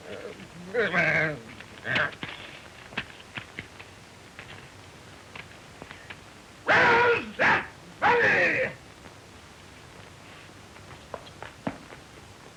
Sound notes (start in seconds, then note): 0.0 grumbling; 7.2 shouting